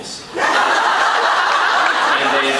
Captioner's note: laughs